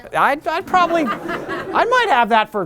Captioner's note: laughter